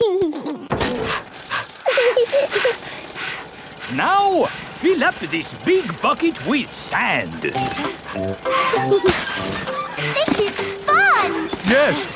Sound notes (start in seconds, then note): 0.3 chuckles; 0.3 daddy pig panting; 2.2 mummy pig panting; 2.2 peppa chuckles; 8.4 mummy and daddy pig panting; 8.4 peppa and george laughing; 11.9 straining